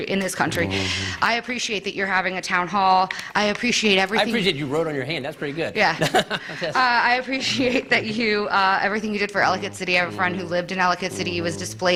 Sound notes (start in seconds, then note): 5.8 laughter